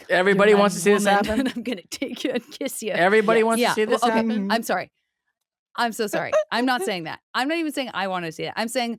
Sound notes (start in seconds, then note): 6.3 giggles